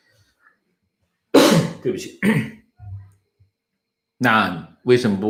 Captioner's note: 咳~